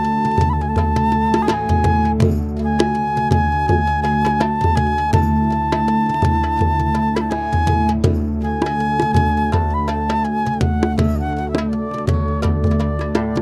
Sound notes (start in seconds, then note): none